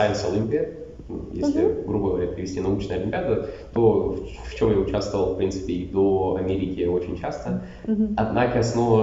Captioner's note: translates into Russian